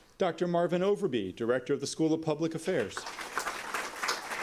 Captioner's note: applause